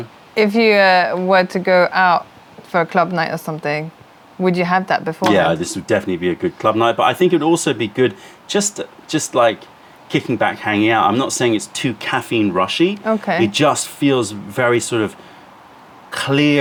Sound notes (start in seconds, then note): 5.3 pouring tea